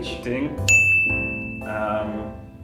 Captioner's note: ding!